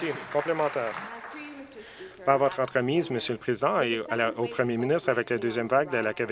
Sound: some Applause

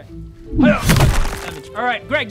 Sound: smack!

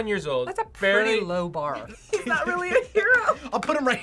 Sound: laughs

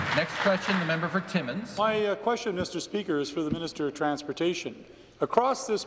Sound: some Applause

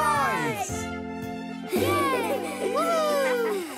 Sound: cheering

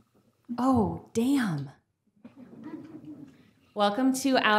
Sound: audience giggling

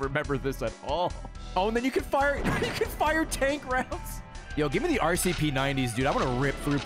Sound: laughs

